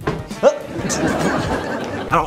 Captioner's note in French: Rires de sitcom